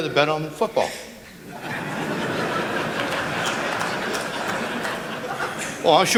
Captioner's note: laughter